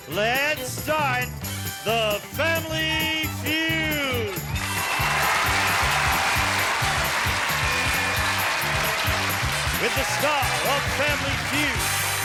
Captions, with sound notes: And now here's the star of "Match Game," Gene Rayburn. [cheering] [upbeat music]